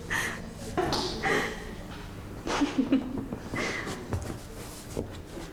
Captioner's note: gleeful laughter